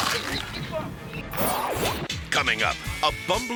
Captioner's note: shark munches; logo whooshes